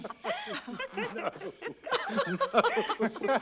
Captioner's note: laughter